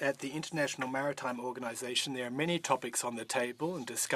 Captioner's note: speaking French